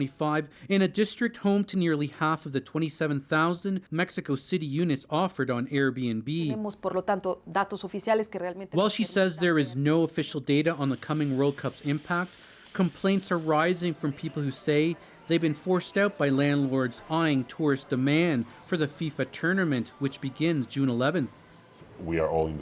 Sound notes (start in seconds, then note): 10.0 speaking alternate language